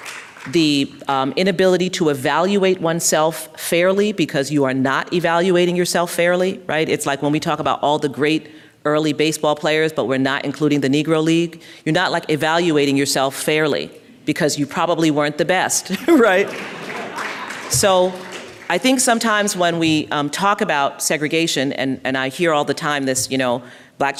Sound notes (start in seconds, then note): 16.2 applause